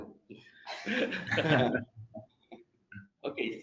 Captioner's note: panelists chuckling